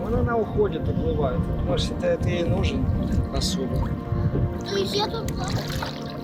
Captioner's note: speaking foreign language; water splashing; speaking foreign language